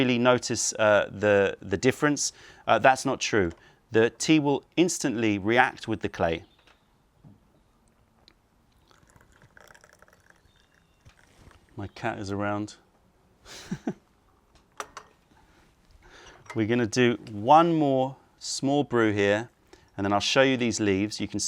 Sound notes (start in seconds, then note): 8.7 pours tea; 13.5 laughing